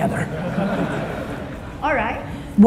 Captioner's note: audience laughing